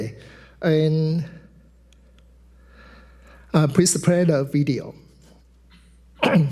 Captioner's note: clears throat